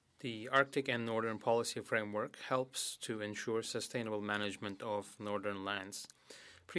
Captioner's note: speaking French